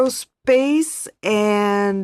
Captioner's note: speaking French